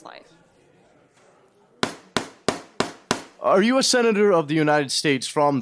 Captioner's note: gavel banging